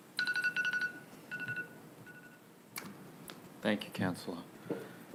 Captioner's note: bell ringing